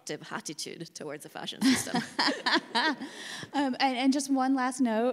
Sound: laughs

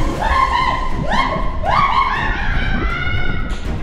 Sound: bubbling

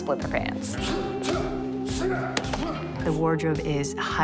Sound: grunting

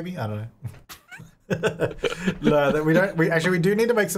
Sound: laughing

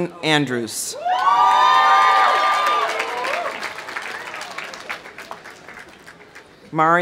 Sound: audience cheering; audience applauding

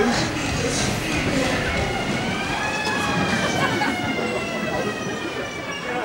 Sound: siren approaching

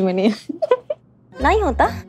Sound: giggling

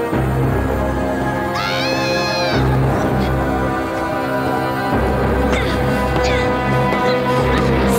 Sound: screams

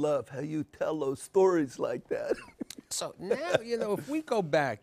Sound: laughs

